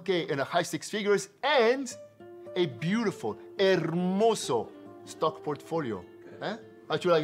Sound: foreign Language

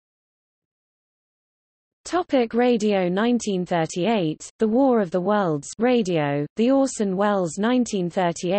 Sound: radio

